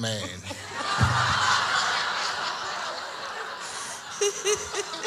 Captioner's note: audience laughs; laughs